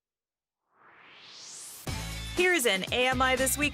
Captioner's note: swoosh